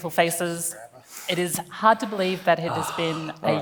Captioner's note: sighs